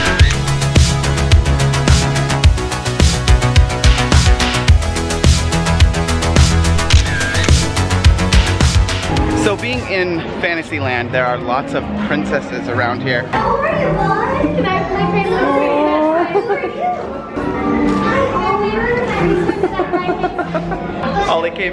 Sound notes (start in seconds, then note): 0.1 camera shutter snapping; 1.7 upbeat music; 6.8 camera shutter snapping